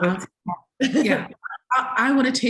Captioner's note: laughs